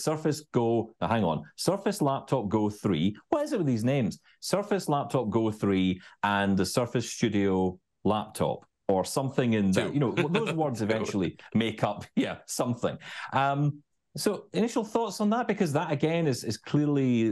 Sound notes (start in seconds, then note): 9.8 laughs